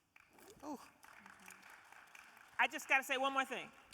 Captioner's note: audience applauding